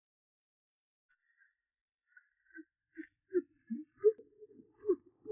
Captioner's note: rocker box squeaks rhythmically